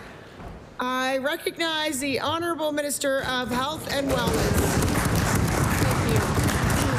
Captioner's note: applause